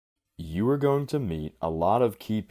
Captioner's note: voiceover